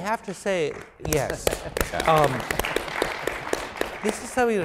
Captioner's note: applause